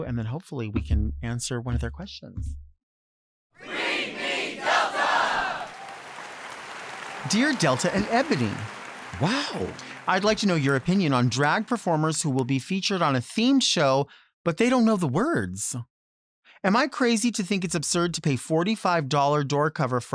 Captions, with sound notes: and then hopefully we can answer one of their questions. - [Crowd] Read me, Delta! (audience applauding) - "Dear Delta and Ebony-" - Wow. - "I'd like to know your opinion on drag performers who will be featured on a theme show, but they don't know the words. Am I crazy to think it's absurd to pay $45 door cover